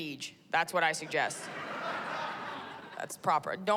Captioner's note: laughter